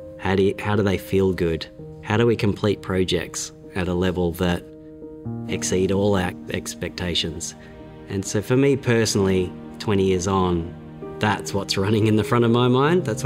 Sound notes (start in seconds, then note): none